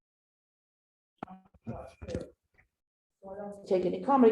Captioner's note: audio skipping